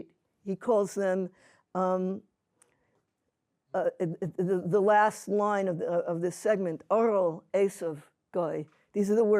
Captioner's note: yiddish